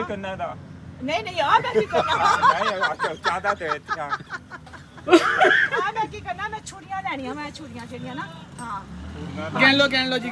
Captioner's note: laughing